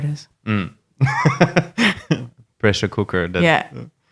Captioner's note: laughing